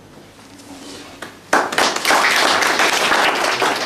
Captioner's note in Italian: applausi